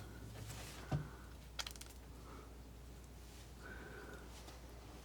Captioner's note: scratching